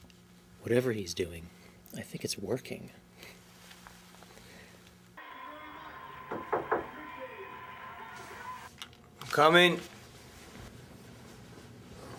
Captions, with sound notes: - Whatever he's doing, I think it's working. (TV playing in background) (knocking on the door) (controller clicks) - I'm coming.